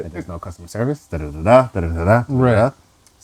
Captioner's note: humming